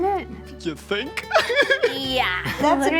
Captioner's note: Zach laughing